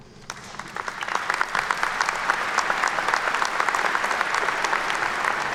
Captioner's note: attendees clapping